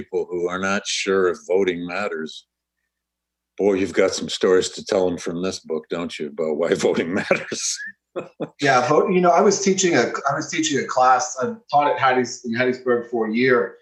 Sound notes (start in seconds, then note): 6.7 laughs